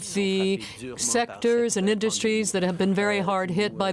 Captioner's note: speaking French